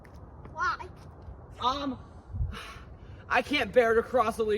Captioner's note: sighs